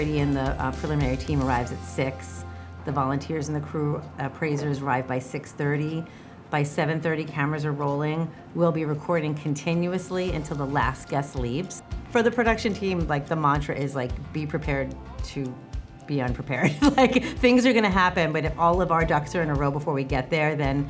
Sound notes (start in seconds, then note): 16.6 chuckles